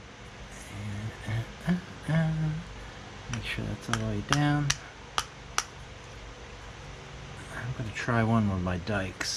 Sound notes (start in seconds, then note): 0.5 happy humming; 3.8 tapping